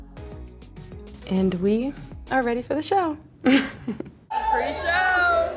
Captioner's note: laughs